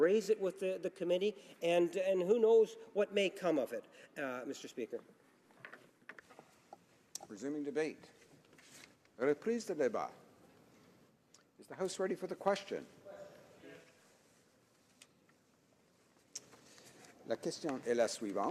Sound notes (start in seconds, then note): 14.9 speaking French